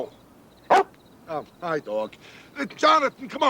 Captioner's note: dog barks